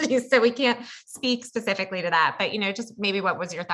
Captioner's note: laugh